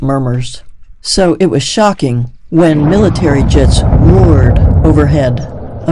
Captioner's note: jets roaring